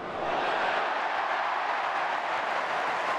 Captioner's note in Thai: เสียงเชียร์ของแฟนๆ